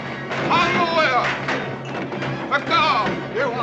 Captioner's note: men speaking native language; clanging and banging noises inside